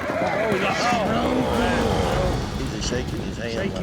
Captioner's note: all groaning